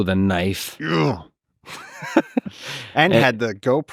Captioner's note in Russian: рычит